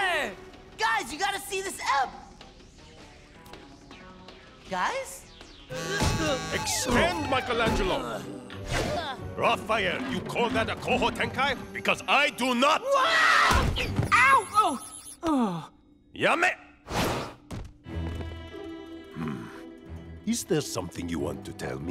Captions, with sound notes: Guys, you gotta see this ep- Guys? [buzzing, chiming] Extend, Michelangelo. Raphael, you call that a Koho Tenkai? Because I do not. [screaming] Ow! Oh! Yame! Hmm. Is there something you want to tell me?